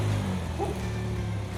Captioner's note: bark!